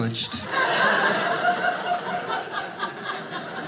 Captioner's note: audience laughing